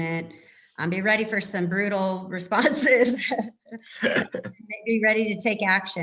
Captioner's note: laugh